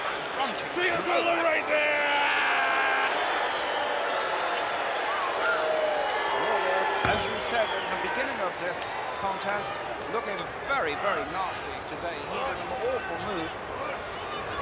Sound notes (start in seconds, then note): 4.1 crowd clamoring